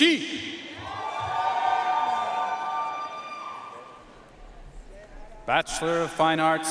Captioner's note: audience cheering and applauding